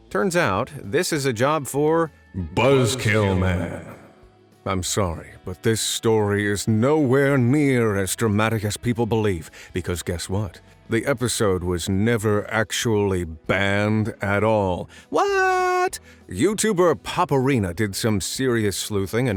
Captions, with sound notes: Turns out, this is a job for – *dramatic voice* Buzzkill Man! I’m sorry, but this story is nowhere near as dramatic as people believe – because guess what? The episode was never actually banned at all! Whaaaat? YouTuber “poparena” did some serious sleuthing